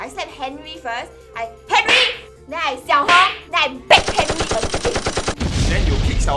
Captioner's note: slap